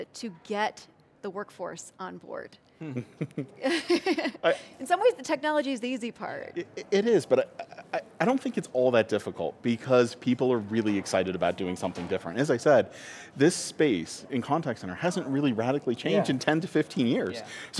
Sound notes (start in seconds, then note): 2.9 laughter